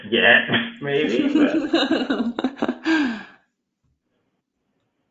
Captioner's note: laughing